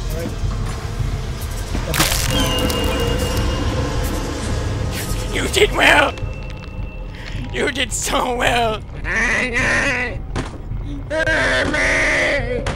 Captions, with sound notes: *Snap* Y- You did well! You did so well! Aghh--Ngahhh!! *Smack* Ngaaah--Maaaahhh!!